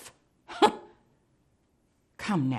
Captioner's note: scoffing